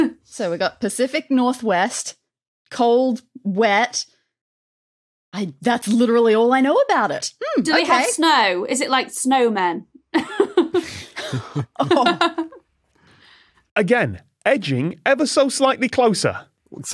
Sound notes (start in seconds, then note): 10.2 guests chuckling in turn